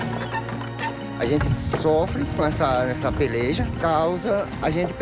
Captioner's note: Portuguese spoken audio